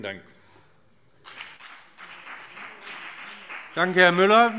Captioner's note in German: Beifall BÜNDNIS 90/DIE GRÜNEN